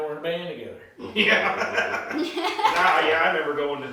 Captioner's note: laughing